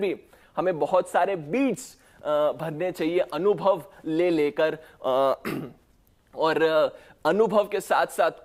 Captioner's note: clears throat